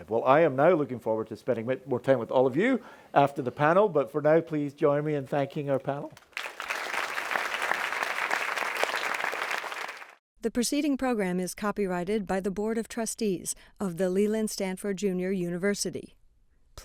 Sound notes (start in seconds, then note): 6.2 audience applauding